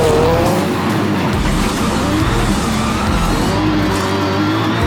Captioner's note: engine revving